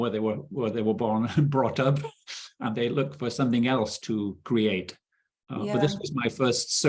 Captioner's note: chuckling